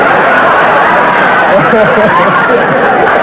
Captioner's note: audience laughter